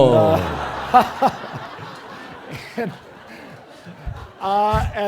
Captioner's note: laughter